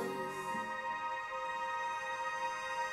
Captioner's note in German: Sphärischer Ton